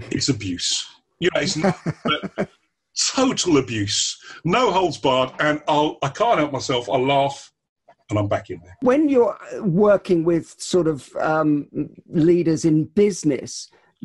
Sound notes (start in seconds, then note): 1.4 laughter